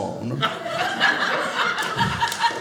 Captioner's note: audience laughing